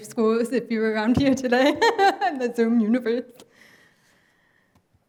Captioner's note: laughs